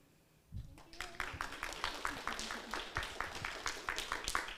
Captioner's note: audience applauds